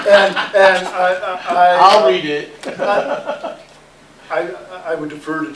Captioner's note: laughter